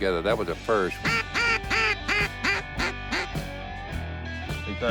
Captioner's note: duck calls